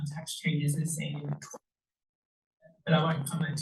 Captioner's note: audio clipping